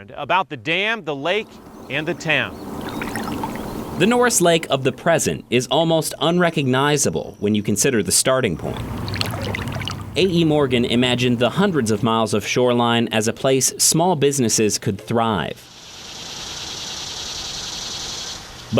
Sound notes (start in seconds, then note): 1.5 water trickling; 8.6 water trickling; 15.7 cicadas chirping